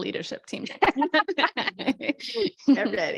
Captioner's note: laughter